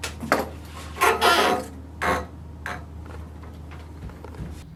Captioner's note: string creaking